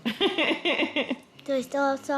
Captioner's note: laughs